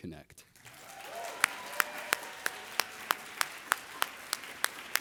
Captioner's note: everybody applauding